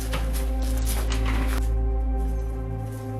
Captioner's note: rolling wheels